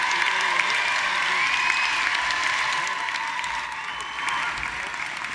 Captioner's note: audience cheering and applauding